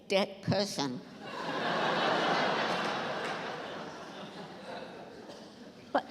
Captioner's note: laughter